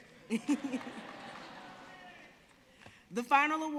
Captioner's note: audience speaking indistinctly; laughing